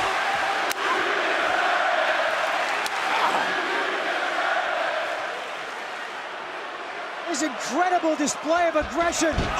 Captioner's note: crowd cheering